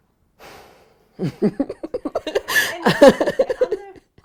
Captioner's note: laughs